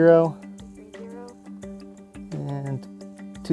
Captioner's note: repeating